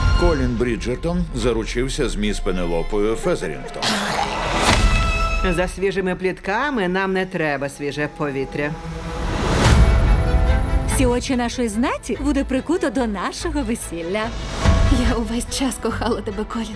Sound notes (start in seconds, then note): 3.8 both spit; 9.5 dramatic string music plays